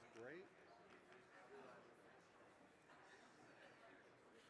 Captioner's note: crowd chattering